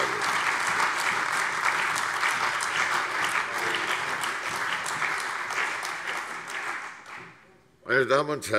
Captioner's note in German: Beifall CDU, AfD, Freie Demokraten und vereinzelt BÜNDNIS 90/DIE GRÜNEN